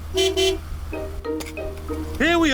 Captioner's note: honks horn